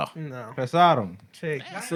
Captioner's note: speaking Spanish